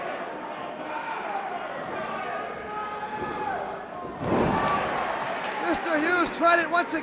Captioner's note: crowd cheering